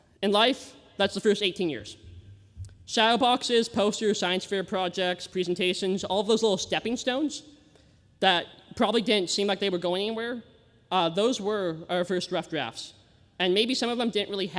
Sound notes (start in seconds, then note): none